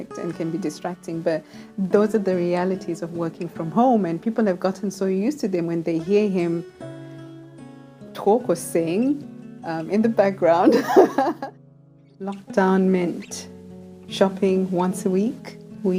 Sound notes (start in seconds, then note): 10.7 laughs